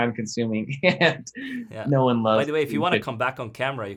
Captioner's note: laughs